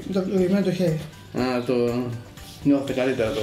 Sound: on TV

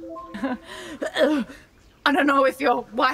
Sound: translator chimes; gagging intermittently

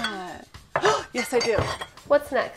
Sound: gasps

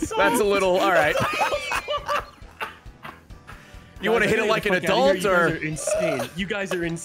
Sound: everyone laughs

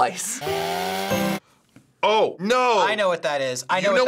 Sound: saw buzzing

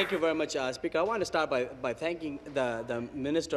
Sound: applause

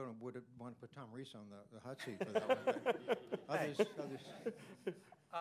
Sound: laughter

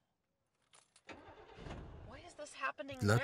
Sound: engine cranks

